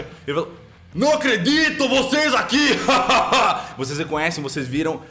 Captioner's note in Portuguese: Risada